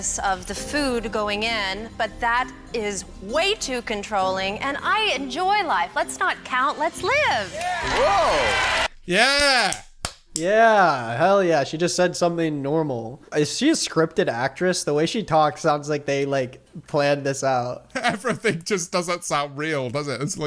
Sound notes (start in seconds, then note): 7.0 audience cheering; 9.8 claps